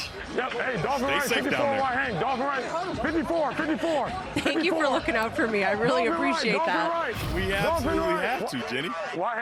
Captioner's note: laughter